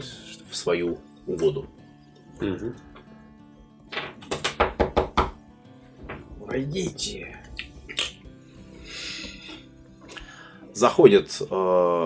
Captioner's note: knocking